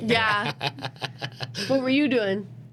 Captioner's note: laughing